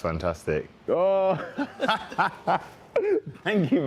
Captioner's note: laughing